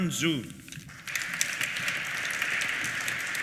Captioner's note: applause